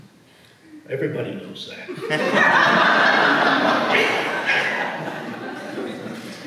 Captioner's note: audience laughs